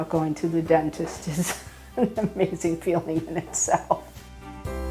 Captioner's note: laughs; soft music